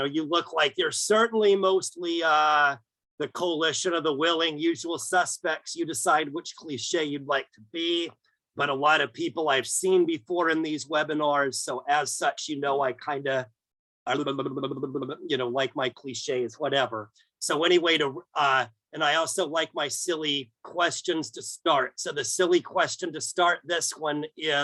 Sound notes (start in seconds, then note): 14.2 humming while flicking tongue